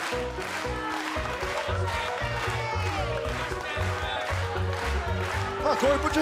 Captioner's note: clapping